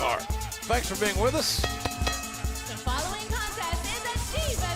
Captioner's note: bell ringing